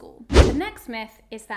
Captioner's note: air whooshing